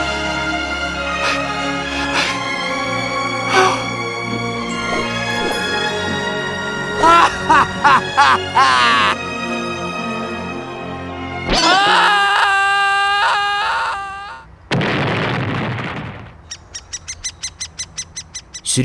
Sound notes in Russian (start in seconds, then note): 6.9 смеется; 11.5 кричит; 14.7 громкий удар о землю; 16.3 пение птиц